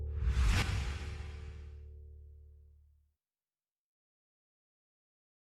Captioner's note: whoosh